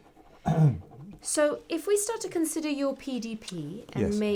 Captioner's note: clears throat